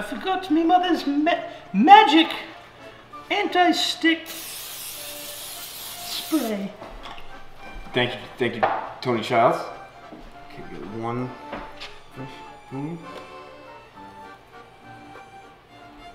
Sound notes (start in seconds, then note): 4.2 aerosol hisses